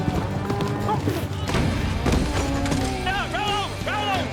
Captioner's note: grunts